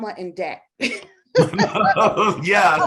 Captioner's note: both laughing